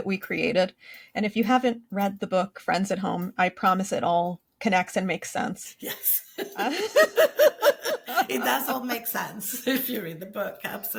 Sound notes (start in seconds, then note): 6.3 both laugh